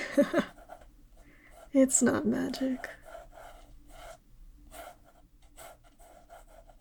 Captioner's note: laugh